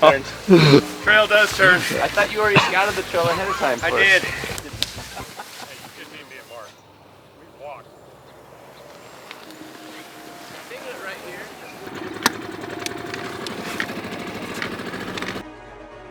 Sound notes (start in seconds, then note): 5.5 chuckling; 9.6 undergrowth crunching; 12.1 outboard engine starting; 15.9 suspenseful string music